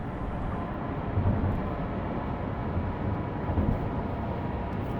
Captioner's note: truck engine humming